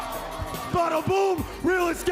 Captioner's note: cheers & applause